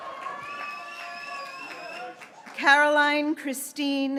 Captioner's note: graduates cheering